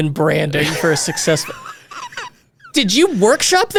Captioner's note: laughing